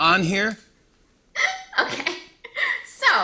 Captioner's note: laughs